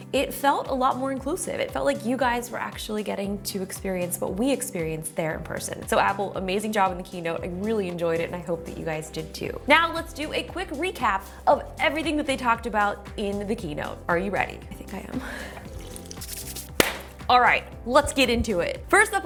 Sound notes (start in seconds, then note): 15.3 sipping drink; 16.7 clapping hands